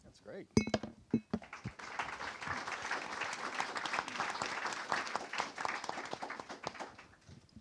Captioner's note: applause